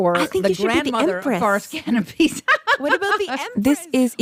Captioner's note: laughs